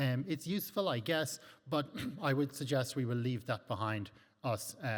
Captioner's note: clears throat